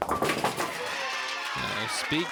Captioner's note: crowd cheers and applauds